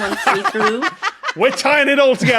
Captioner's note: laugh